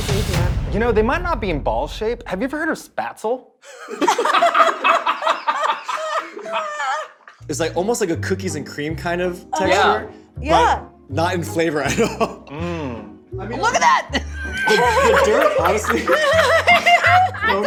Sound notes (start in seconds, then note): 3.6 laughter; 11.9 laughs; 13.7 laughter